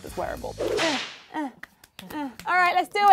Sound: whip cracks; hands clapping

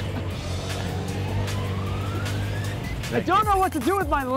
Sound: laughs

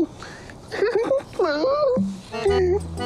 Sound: Unni sobbing

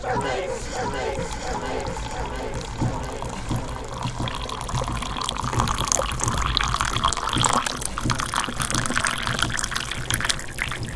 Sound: coffee pouring

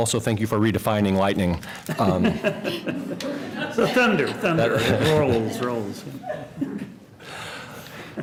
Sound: laughter

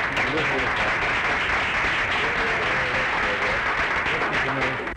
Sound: clapping

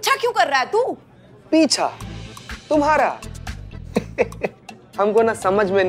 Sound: laughs

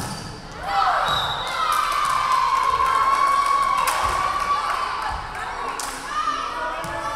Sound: crowd cheering; referee whistling

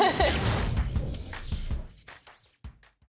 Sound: electric sounds

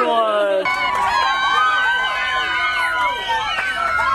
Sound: cheering

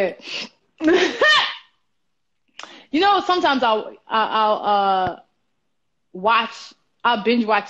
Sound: laughs

